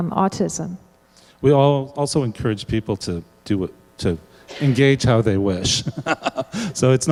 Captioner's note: laughs